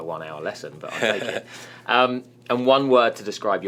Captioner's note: laughing